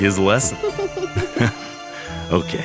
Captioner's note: chuckles; Mila giggles